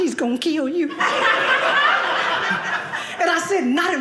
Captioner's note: audience laughing